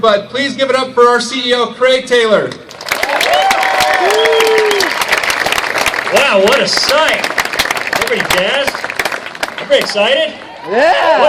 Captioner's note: applause